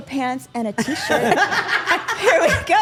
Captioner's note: group laughing